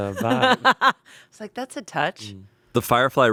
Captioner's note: laughs